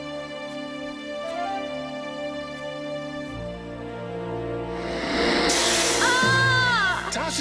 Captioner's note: groaning; snake hissing